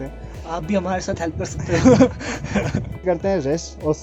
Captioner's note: laughs